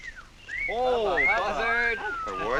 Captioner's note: whistling